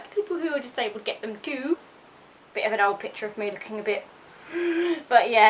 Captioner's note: gasps